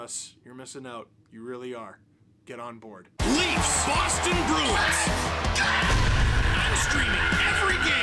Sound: screaming

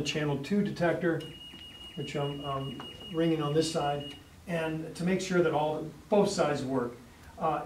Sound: alarm beeps

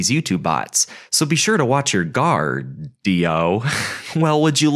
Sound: laughs

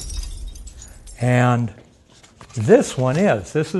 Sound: crash sound

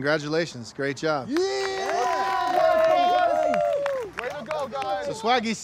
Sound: group cheers

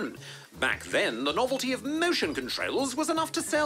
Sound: none

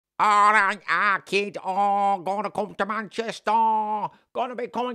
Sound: terrible Manchester accent

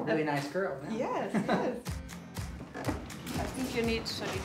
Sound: chuckling

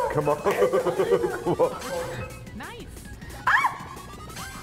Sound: laugh

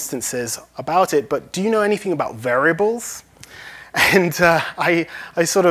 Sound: laughs

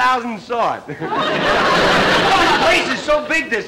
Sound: audience laughter

